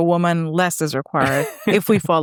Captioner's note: laughing